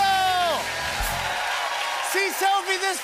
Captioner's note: cheers and applause